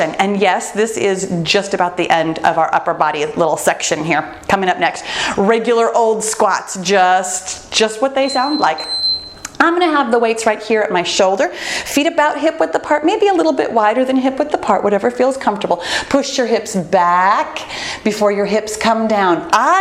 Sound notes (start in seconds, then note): 8.2 bell dinging